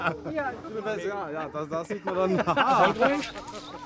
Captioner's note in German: Beide lachen, leise Gespräche